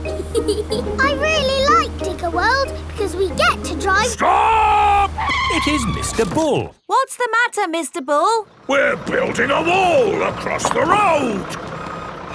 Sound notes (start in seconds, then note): 0.1 george chuckling; 3.8 tires screeching